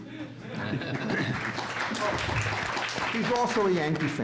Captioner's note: audience laughs and applauds